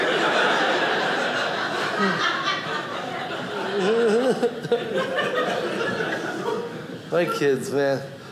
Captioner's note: audience laughing